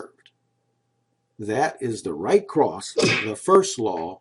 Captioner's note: punching sound